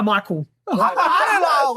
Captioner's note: laughs